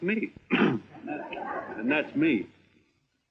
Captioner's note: clearing throat